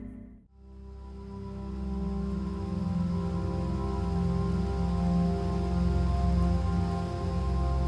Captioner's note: continuous dramatic sound